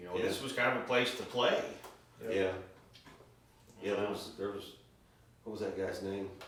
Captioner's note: none